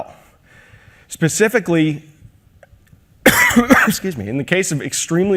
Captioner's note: coughs